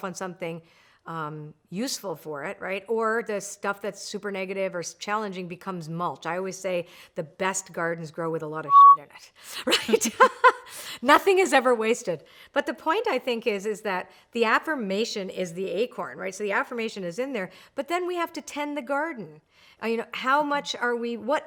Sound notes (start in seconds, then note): 8.6 beeps; 10.5 laughs